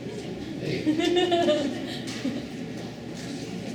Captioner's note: female laughter